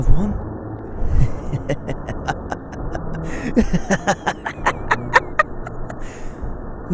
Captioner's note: laughing maniacally